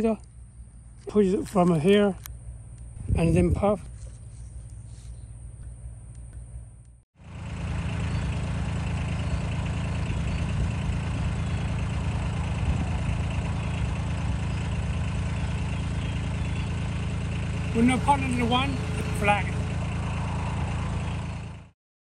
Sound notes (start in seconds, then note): 7.2 machinery sounds